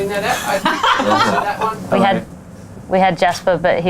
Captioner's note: laughs